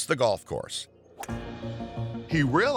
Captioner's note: club swatting ball